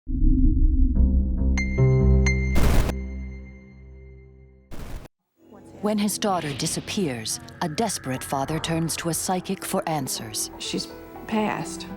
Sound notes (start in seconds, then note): 0.2 melodic haunting music; 2.6 static hissing